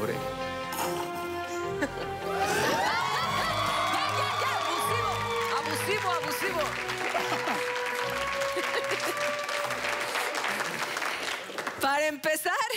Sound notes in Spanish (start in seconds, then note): 1.8 Exclamaciones; 1.8 Risas; 10.6 Aplausos